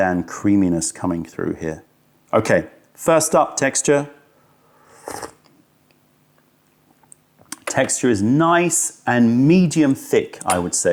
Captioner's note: sips tea